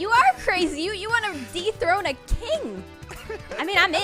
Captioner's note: laughing